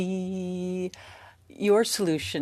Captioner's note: speaking French